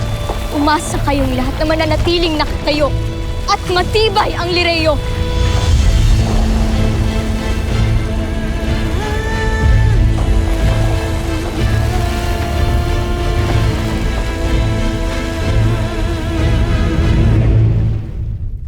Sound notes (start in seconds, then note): 6.0 music swells; 6.0 powerful blast nearby, rumbles